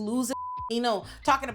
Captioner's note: beep